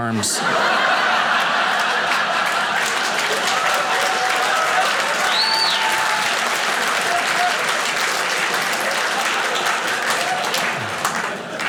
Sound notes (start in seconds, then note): 0.2 audience laughing; 0.5 audience applauding